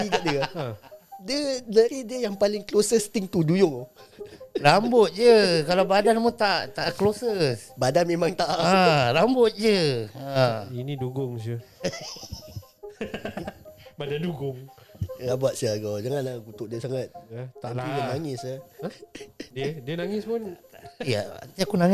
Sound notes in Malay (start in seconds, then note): 0.0 ketawa; 11.7 ketawa